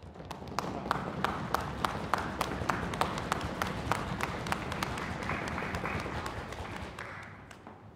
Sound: applause

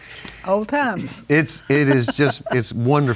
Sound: laughs

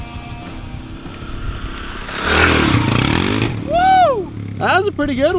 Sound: dirt bike engine revving

